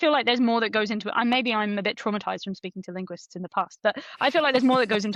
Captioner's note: laughs